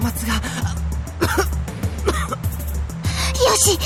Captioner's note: coughing